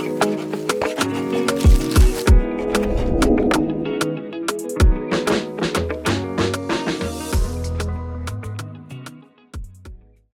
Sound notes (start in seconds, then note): 0.0 pencil scratching; 2.2 air whooshes; 4.7 upbeat music continues